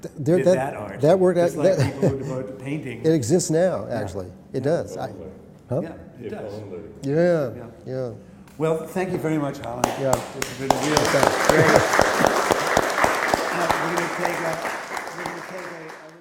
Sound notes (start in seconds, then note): 11.3 applause